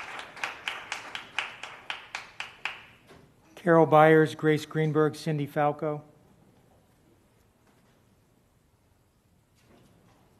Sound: applause

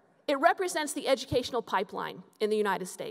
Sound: none

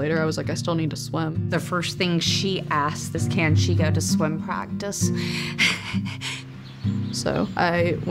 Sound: laughs

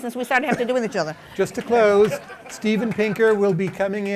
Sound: laughter

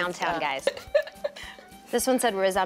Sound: laughter

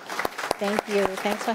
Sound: applause

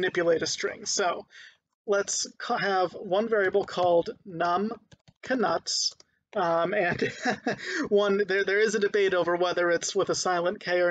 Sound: laughing

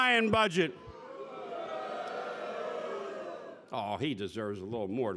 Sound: boos

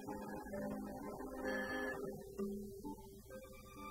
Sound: phone rings

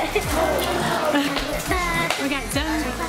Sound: laughter; imitating maracas

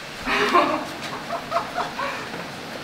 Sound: laughter

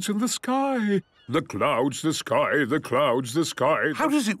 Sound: sing-sing voice

